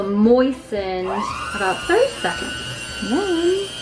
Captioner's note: machine grinding